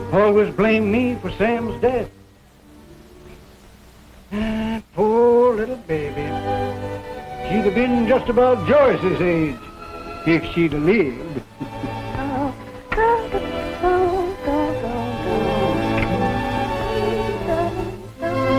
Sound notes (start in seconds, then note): 12.5 Chloe humming; 12.5 sentimental orchestral music